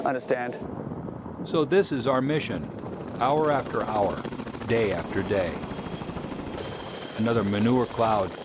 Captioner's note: voiceover